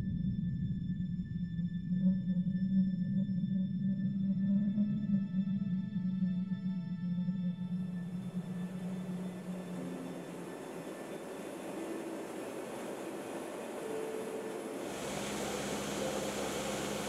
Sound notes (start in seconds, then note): 10.5 engine whirring